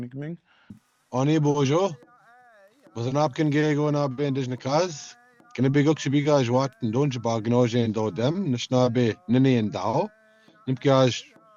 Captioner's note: speaking in foreign language